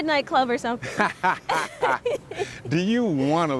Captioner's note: laughs